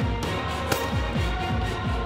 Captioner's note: gun shot